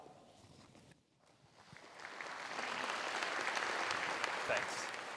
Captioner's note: applause